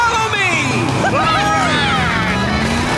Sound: cheering

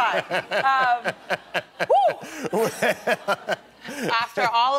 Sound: laughter

